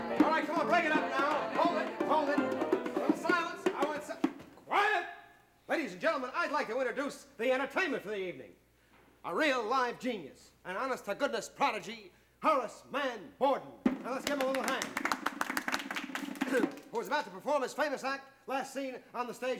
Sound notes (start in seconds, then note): 13.8 drum roll; 14.2 applause